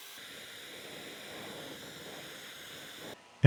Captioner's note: flame hisses